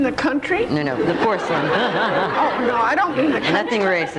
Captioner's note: laughs